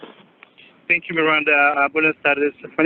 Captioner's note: foreign language